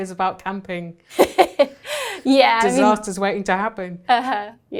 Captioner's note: laughing